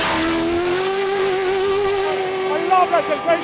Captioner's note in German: Motor heult auf